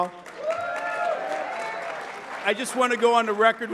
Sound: applause

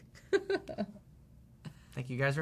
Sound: laughing

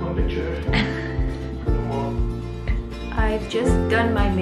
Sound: laughing

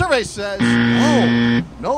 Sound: buzzer

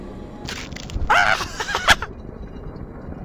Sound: laughs and screams as he dies

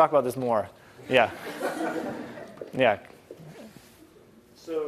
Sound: laugh

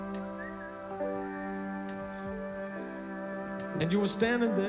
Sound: whistles

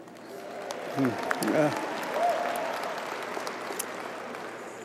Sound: audience applauding

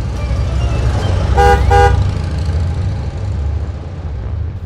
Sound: upbeat music; bus horns

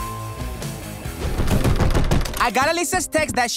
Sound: knocking

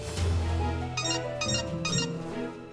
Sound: ringing

